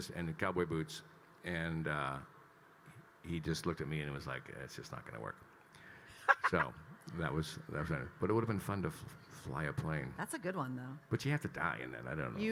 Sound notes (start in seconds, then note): 6.2 laughing